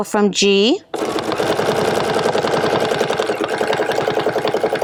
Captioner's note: machine whirring